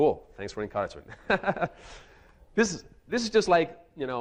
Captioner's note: chuckles